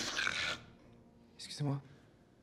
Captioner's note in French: reniflement